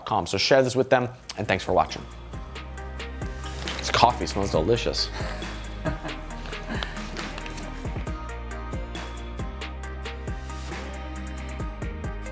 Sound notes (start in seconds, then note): 5.0 laughs; 9.0 chill techno music